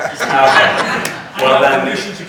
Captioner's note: all laughing